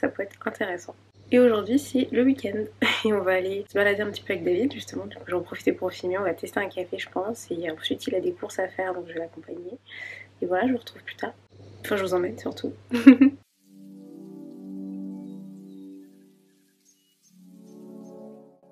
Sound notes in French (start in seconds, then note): 12.9 rires